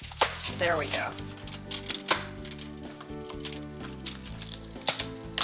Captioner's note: chocolate snapping